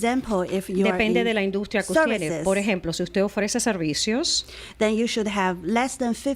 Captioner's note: Hablando ingl\s